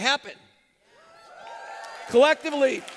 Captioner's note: applause